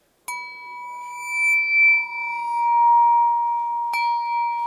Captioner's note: high pitched tones ringing